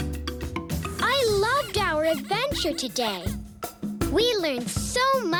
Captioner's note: squeaking